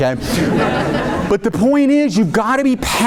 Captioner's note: audience laughing